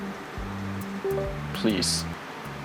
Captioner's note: windows ding